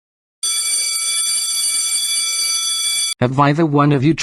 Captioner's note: school bell ringing